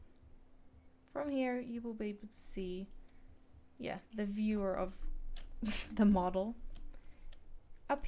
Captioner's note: snickers